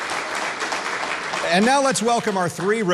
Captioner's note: applause